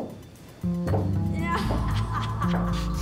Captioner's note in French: rire maléfique